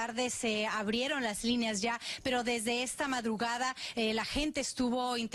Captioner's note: spanish